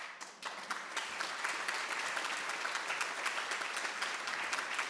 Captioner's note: audience applauding